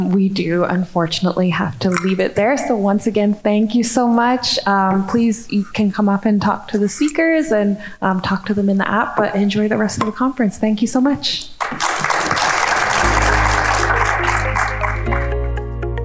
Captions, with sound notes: We do unfortunately have to leave it there. So once again, thank you so much. Please, you can come up and talk to the speakers, and talk to them in the app, but enjoy the rest of the conference. Thank you so much. (audience clapping) (soft upbeat music)